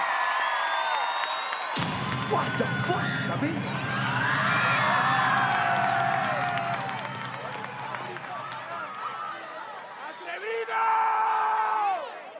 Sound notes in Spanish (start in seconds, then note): 0.2 vitorean y gritan; 4.1 Gritos